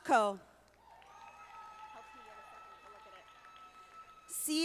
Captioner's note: audience applauding